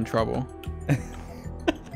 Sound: laughs; chuckles; laughs

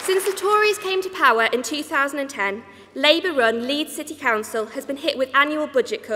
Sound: applause

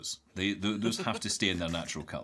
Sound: laughing

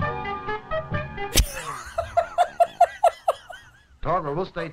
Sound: laughs uproariously

